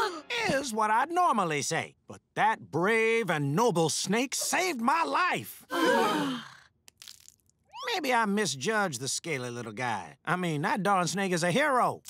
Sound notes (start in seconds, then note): 5.7 sighing